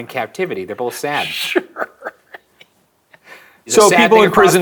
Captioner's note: chuckling